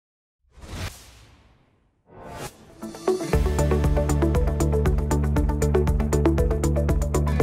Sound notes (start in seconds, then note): 0.4 logo whooshes; 2.2 upbeat music begins